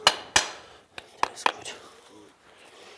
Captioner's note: quietly